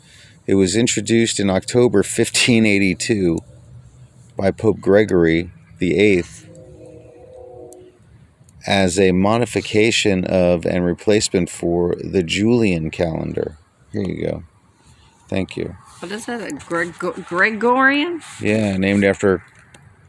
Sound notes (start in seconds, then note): 5.8 train Horn in the distance